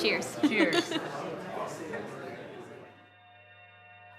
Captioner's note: glasses clink